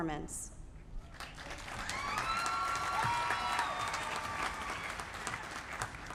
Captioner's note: applause